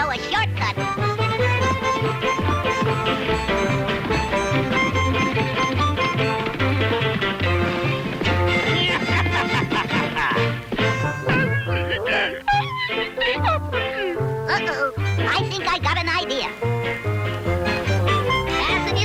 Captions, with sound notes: - Come on, old pal. I know a shortcut! (hooves racing) (cheerful upbeat music) (Dirty Dan laughs maniacally) (Sugarfoot crying) - Uh-oh. I think I got an idea.